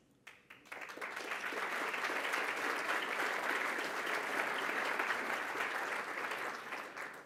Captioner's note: applause